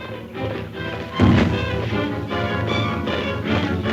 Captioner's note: crash